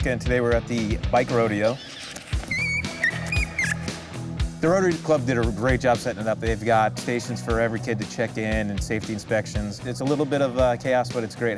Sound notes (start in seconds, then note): 2.5 child laughs